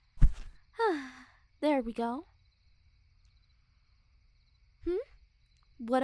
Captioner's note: soft grunt; sigh